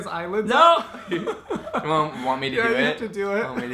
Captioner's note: laughing